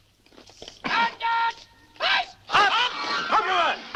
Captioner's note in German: Geschrei geht weiter